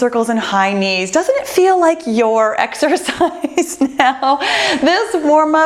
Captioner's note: laughs